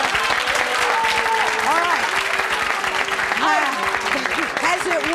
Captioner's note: audience clapping